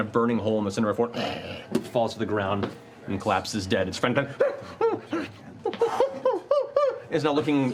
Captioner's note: whimpering